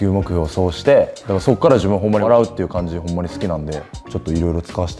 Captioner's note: laugh